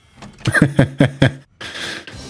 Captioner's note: laughs